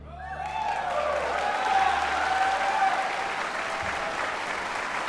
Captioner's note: audience clapping and cheering